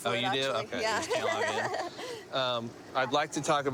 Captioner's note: nervous laughter